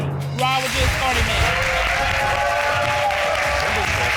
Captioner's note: audience applauding, cheering